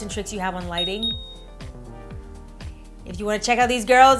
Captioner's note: bell dings